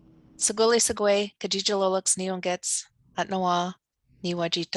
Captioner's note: speaking Lakota